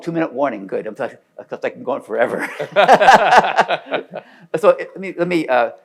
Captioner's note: laughs